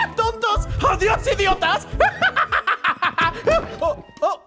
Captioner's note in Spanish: cacareo de supervillano